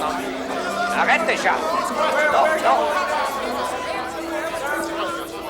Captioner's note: John yells in French